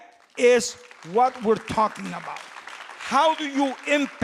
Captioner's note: applause